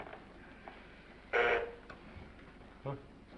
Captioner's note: bell buzzes